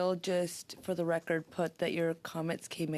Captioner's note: speaking French